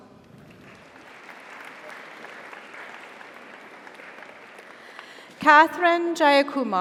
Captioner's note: audience applauds; audience cheers